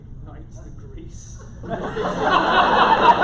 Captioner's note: laughter